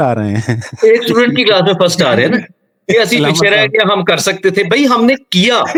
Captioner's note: laughter